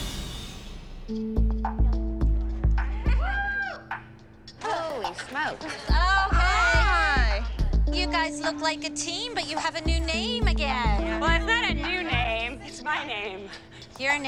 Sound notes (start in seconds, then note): 1.4 chatter, laughter; 2.9 girl whoops